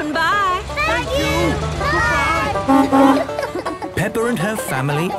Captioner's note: honking